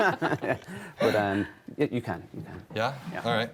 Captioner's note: all laughing